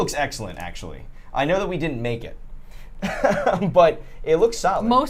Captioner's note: laughs